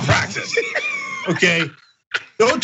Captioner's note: laugh